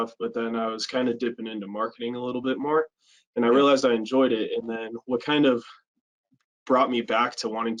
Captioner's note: none